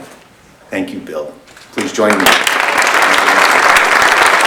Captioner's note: applause